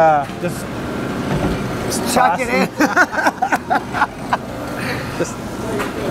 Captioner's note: laughs